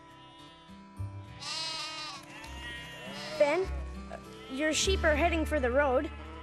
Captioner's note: bleating